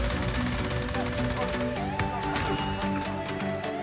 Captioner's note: gun firing